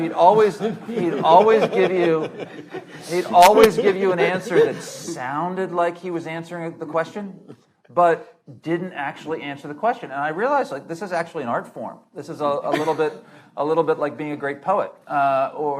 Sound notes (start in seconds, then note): 1.8 panelists laughing